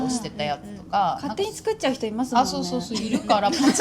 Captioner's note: laughs